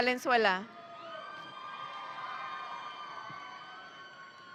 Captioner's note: audience cheering